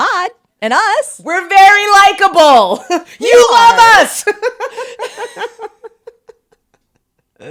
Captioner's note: laughs